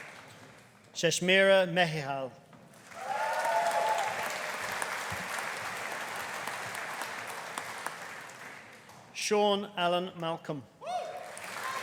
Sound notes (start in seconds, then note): 2.8 audience applauding; 2.9 audience cheering; 11.0 audience cheering; 11.2 audience applauding